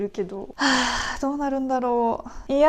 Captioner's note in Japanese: クソデカため息